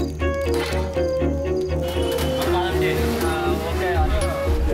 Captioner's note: man speaking native language